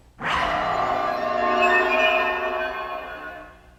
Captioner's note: eerie whooshing